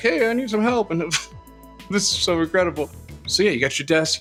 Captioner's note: embarrased chuckle